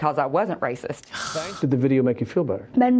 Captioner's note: sighs in frustration